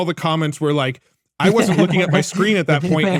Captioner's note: laughing